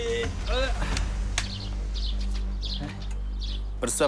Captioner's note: father straining; birds chirping